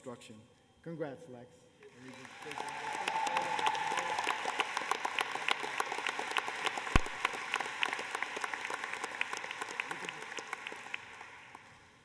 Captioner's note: applause